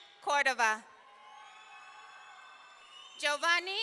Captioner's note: audience cheering